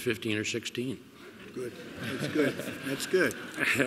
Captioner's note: laughter